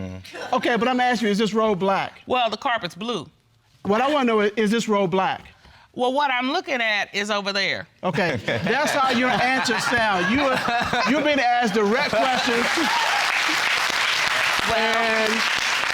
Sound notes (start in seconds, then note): 8.2 laughter; 11.8 audience applauding